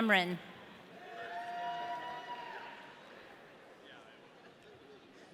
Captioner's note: audience cheering